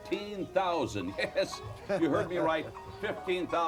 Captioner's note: laugh